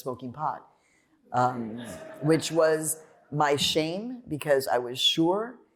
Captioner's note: laughter